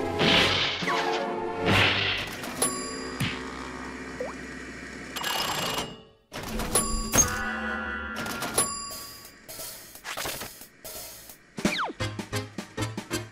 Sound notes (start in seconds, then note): 2.5 elevator bell dings; 6.5 elevator bell dings